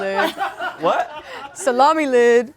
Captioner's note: all laugh